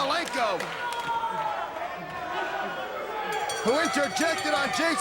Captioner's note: crowd chatter; bell ringing